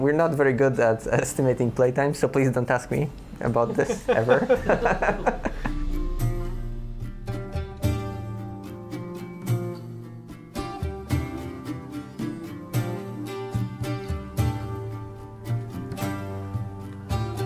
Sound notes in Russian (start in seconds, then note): 6.3 смеётся